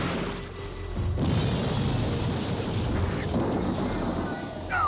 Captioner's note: explodes